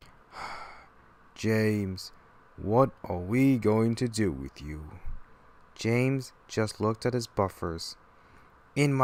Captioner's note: sigh